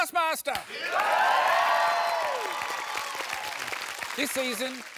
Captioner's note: cheering